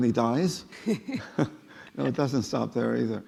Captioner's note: laughing